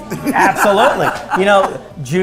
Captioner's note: laughter